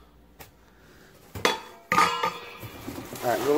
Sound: clang

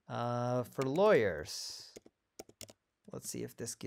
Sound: keyboard clicking

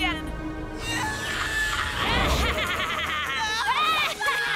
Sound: Goh screaming; Ash laughing

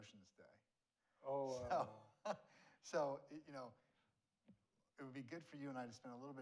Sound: laughs

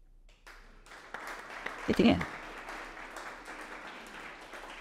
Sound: audience applauding

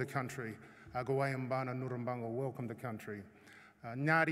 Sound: non-english speech

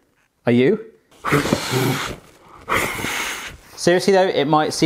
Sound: sharp exhales

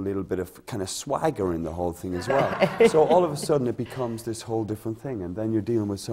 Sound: laughter

